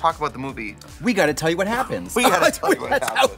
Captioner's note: laughs